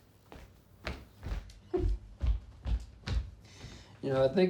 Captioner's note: chuckling